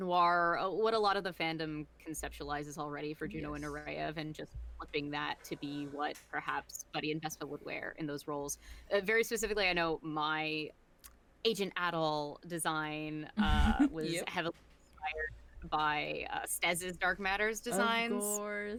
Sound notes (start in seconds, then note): 13.4 laughs